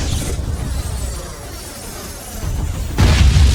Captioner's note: spacecraft whooshing; explosion booms